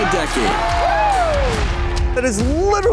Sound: applause

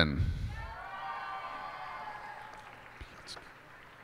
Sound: cheers and applause

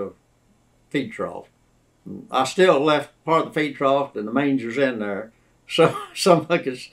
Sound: laughs

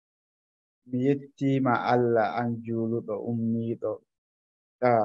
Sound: speaking Fufulde

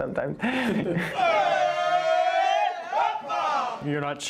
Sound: laughs; all shouting

